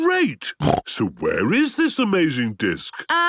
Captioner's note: snorting